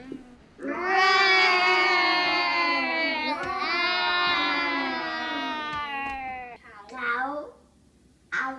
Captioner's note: children growl like bear